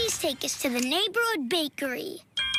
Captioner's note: ding ding